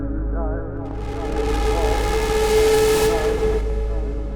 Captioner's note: scary noise